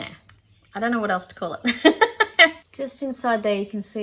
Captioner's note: laughs